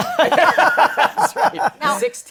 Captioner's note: laughter